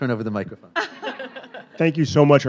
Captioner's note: panel laughing